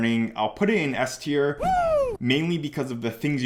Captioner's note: man cheering